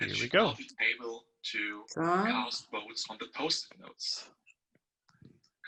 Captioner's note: chatter in the background